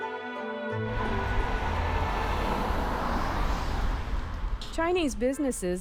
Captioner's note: soft instrumental music; wind whooshing